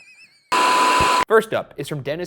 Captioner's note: screen beeping